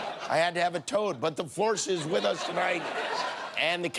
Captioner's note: laughter